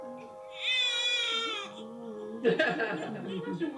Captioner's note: infant wailing